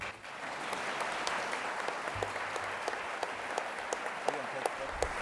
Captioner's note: applause